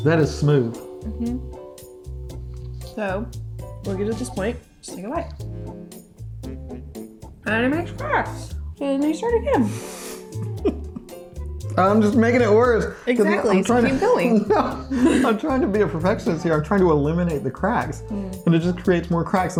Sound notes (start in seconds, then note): 5.5 playful music continues; 10.1 chuckling